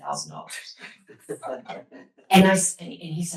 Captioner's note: laughter